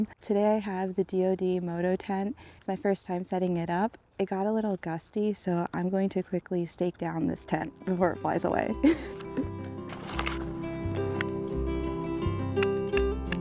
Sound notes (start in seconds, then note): 8.8 laughs; 10.6 soft guitar music